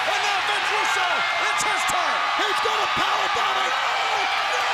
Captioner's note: crowd cheering